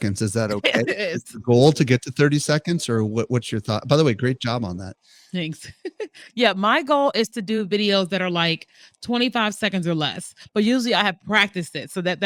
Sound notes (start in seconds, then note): 0.0 laughs